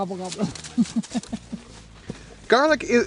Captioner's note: laughs